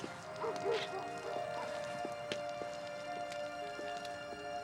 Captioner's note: dog barking